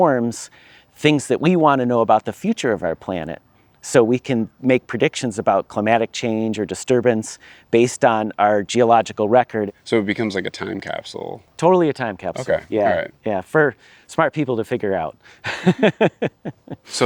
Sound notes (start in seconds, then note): 12.3 pat; 15.4 laughs